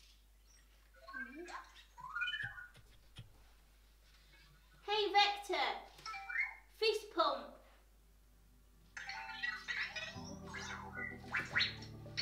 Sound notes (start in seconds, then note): 1.5 Vector makes robot noises - beeps; 9.9 Vector makes robot noises